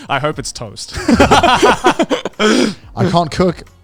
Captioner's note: laugh